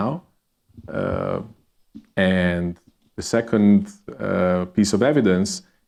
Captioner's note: none